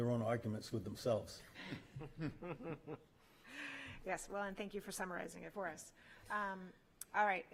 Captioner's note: laughter